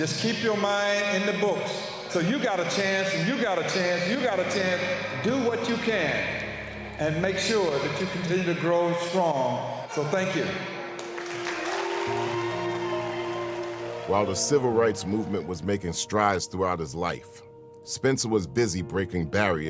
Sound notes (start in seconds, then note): 10.8 cheering; 11.7 tranquil music